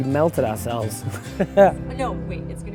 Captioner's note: laughs